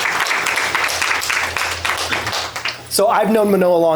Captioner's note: applause